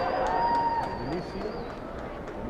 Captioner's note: applause